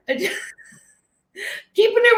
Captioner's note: laughing